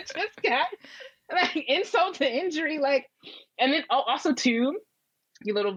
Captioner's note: laughs